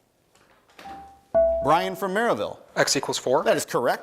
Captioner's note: bell rings